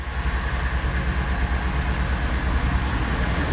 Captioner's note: car engine